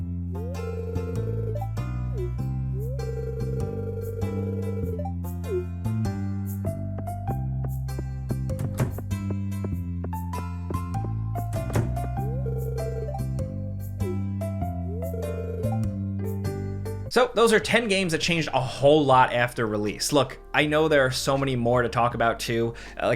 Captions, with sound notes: (warm music) (text chattering) (door clatters) So those are 10 games that changed a whole lot after release. Look, I know there are so many more to talk about too.